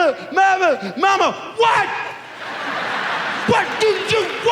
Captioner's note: audience laughs